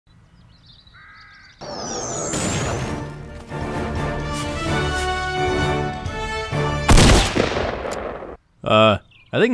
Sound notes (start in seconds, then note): 0.1 birds chirp; 2.5 object thuds; 3.3 heroic music; 6.8 gun blasts